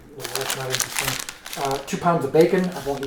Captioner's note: paper crinkles